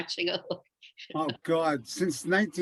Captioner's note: chuckles